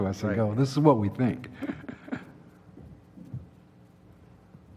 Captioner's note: cough